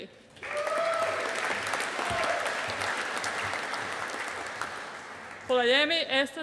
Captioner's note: audience applauding